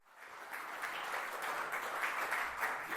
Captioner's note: audience applauding